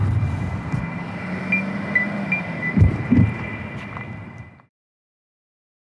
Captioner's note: beeping